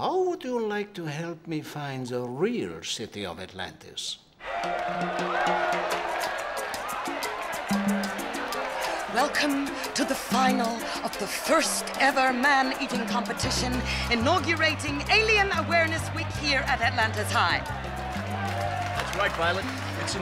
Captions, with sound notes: - How would you like to help me find the real city of Atlantis? (crowd cheering) (tropical jazz music) - Welcome to the final of the first ever man eating competition, inaugurating Alien Awareness Week here at Atlantis High. - That's right Violet,